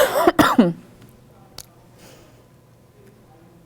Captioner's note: coughs